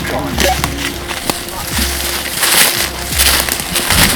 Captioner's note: leaves crunching